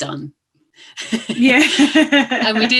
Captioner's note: laughs